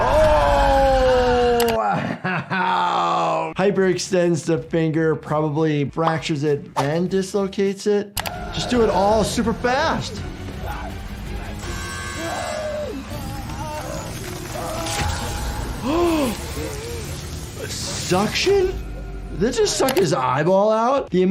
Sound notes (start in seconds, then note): 11.6 buzzer buzzing; 11.6 guy screaming; 13.6 character moaning; 13.6 doctor gasping